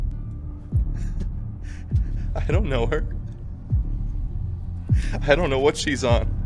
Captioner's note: laughs